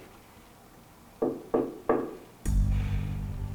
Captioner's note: knock at door; pensive music